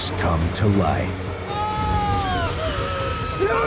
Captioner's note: screaming